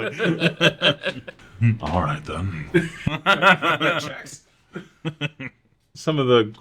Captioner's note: laugh